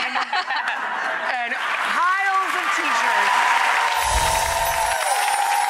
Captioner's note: audience applauding